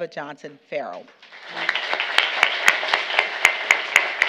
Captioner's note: applause